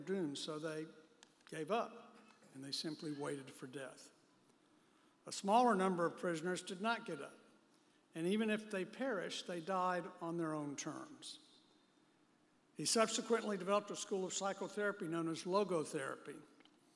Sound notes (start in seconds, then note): none